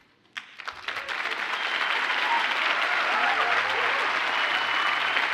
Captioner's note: audience cheers and applauds